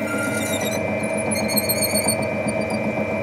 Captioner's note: soft squeaking, humming